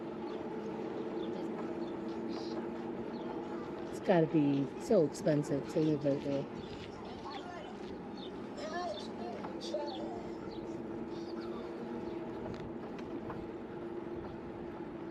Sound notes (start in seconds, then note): 11.7 birds chirping